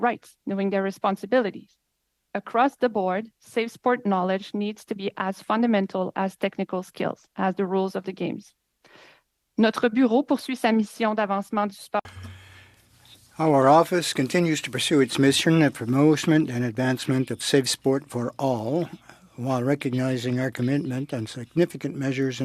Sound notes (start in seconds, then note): 13.6 speaking French